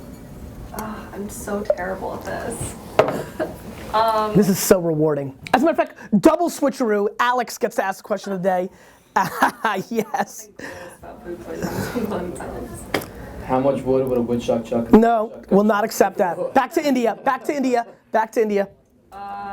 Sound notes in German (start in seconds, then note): 9.2 Lacht